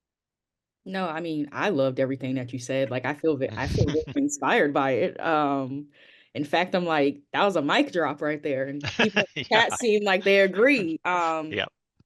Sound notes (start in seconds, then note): 8.8 laughing